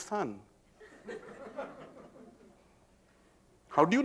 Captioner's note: laughter